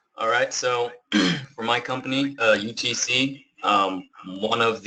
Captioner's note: cough